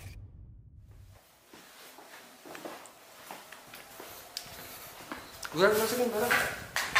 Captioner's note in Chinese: 脚步